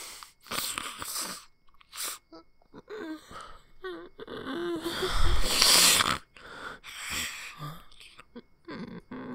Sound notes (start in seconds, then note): 5.8 sighs